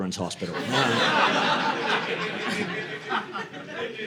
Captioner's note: audience laughing